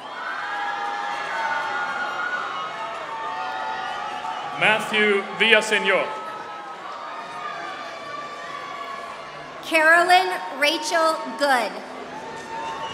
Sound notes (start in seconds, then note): 3.1 applause